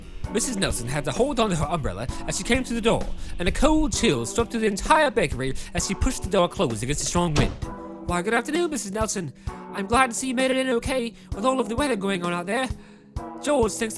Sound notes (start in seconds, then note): 6.8 door closes